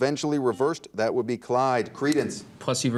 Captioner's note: buzzer dings